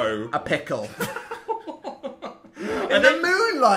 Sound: Phil laughing

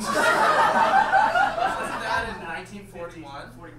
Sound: audience laughs

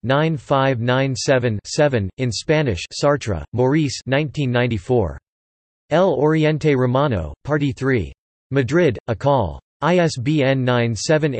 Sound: in Spanish

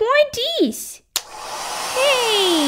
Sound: click!

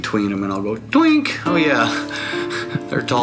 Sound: laughing

